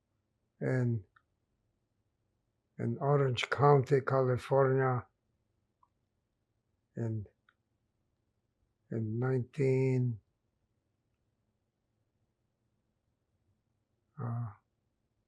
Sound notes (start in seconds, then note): 10.3 pauses 6 seconds